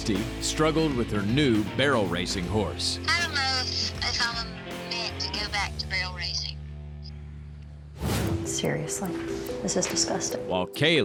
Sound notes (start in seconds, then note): 3.4 on phone